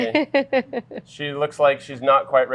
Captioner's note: laughing